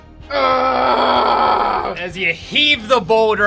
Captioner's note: grunts and Growls